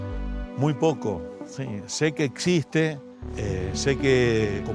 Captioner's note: speaking Spanish